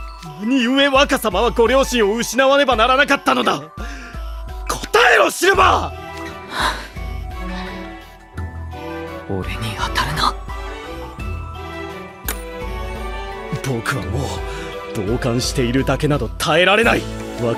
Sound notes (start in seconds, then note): 6.4 sigh